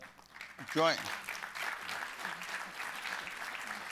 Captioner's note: applause